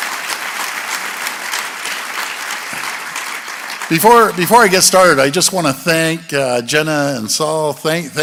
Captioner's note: applause